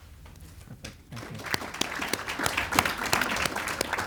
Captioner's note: audience applauds